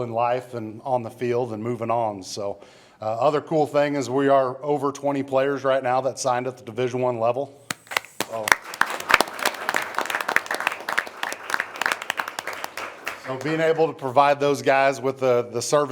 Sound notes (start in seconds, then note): 7.7 people applauding